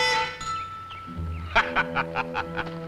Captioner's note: laughing